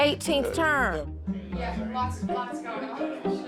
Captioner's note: indistinct chattering